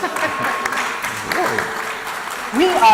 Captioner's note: applause